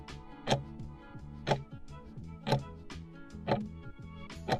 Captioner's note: timer ticking